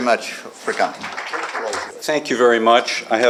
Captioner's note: applause